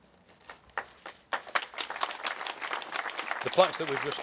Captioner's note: applause